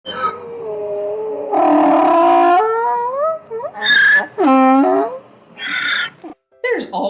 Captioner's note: donkey Braying